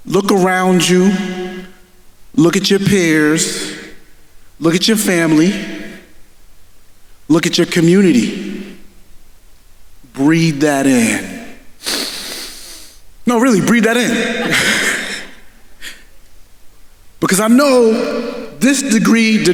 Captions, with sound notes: Look around you, look at your peers, look at your family, look at your community. Breathe that in. (inhales) No, really, breathe that in, (chuckles) because I know this degree